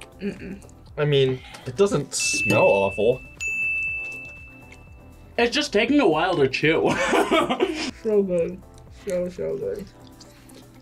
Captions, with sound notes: - Mm-mm. - I mean, it doesn't smell awful. (bell rings) - It's just taking a while to chew. (laughs) - So good, so so good.